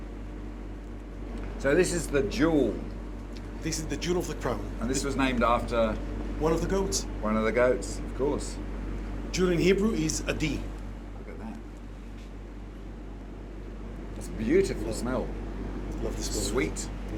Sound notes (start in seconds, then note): 9.0 speaks hebrew word